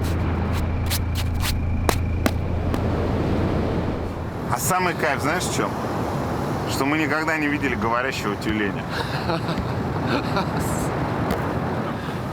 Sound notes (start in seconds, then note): 8.8 laughs